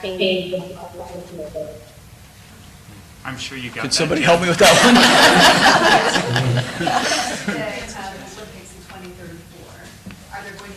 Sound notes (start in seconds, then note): 4.0 board laughing